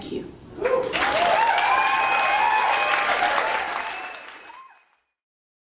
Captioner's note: crowd cheering and clapping